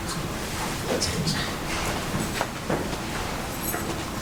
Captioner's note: whispering